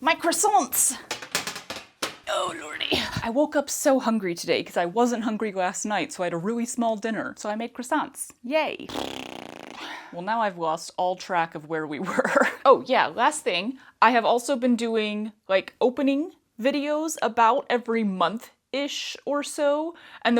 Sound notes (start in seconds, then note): 1.0 clanking; 8.8 mouth fart